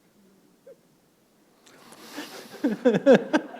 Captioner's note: chuckle